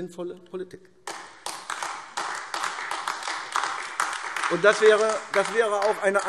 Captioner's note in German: Beifall AfD